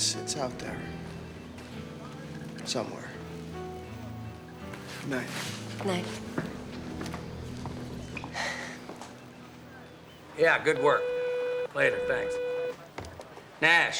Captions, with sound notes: Oh, yeah, definitely. It's-it's out there. Somewhere. Good night. Good night. (sighs) (phone beeping) Yeah, good work. Later. Thanks.